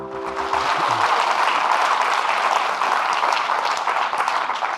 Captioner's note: audience clapping